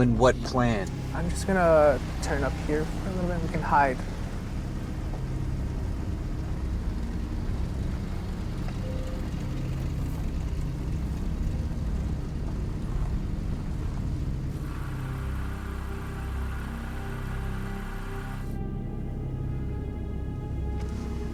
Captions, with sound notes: - Owen, what plan? - I'm just gonna turn up here for a little bit, we can hide. (vehicle droning) (suspenseful music continues)